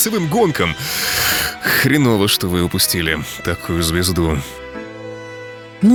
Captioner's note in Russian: вздыхает